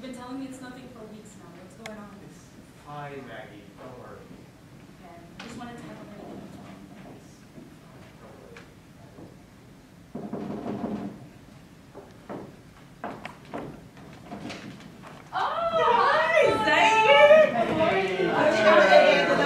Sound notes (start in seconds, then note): 10.1 knock on the door